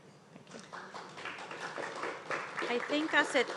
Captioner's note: audience applauds